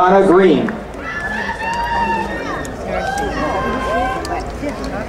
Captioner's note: crowd cheering